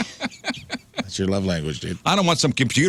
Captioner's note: laughing